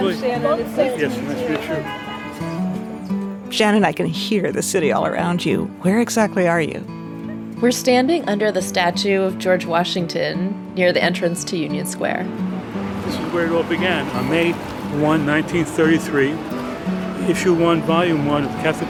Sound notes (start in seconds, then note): 1.2 car horn honks; 2.1 gentle guitar music